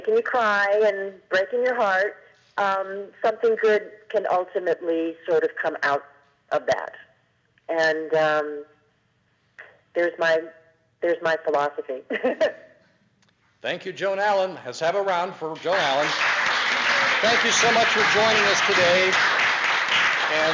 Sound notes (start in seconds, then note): 12.0 laughing; 15.5 audience applause